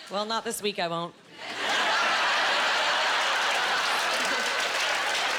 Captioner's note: laughing